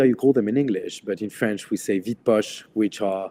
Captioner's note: speaks a foreign language